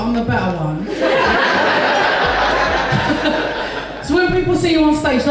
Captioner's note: audience Laughs